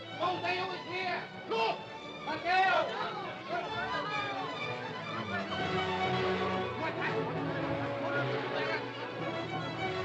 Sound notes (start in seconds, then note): 2.3 men shouting; 4.0 dramatic music